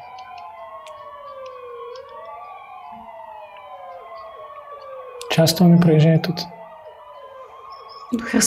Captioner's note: ambulance siren